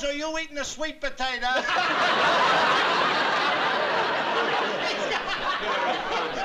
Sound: laughs

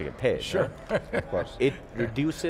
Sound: laughs

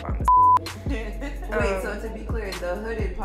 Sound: girls laughing

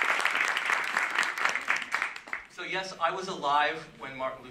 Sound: applause

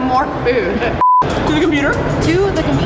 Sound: beeps

